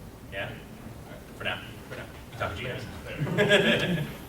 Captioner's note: mumbling from audience; laughs